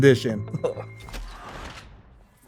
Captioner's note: chuckles